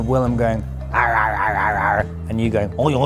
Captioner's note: weird pirate sounds